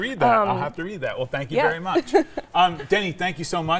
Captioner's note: laughs